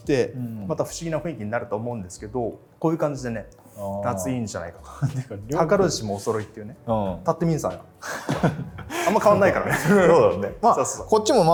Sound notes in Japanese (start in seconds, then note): 8.0 笑い